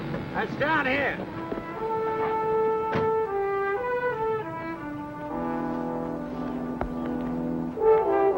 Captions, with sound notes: - He's down here. (door thuds close) (suspenseful music)